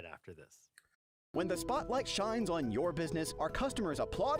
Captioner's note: voiceover